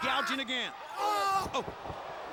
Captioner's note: person groaning